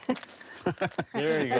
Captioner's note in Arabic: ضحكة; يضحك